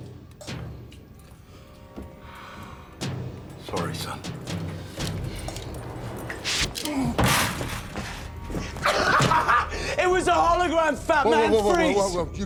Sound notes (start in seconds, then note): 0.3 intense music; 8.8 laughs